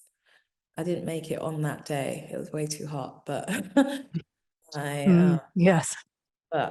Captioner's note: chuckling